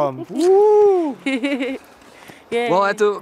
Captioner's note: laughs